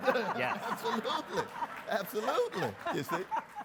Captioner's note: everyone laughs